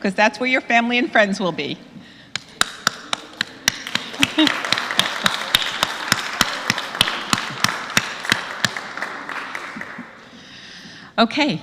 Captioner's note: applause